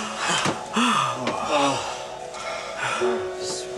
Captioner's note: all sighing